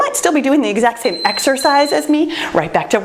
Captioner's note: timer beeps